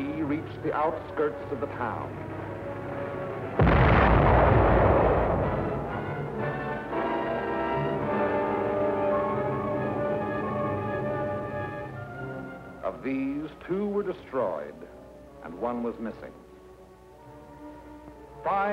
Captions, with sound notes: Three reached the outskirts of the town [explosion] and one was missing.were o